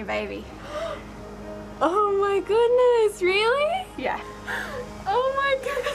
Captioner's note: gasps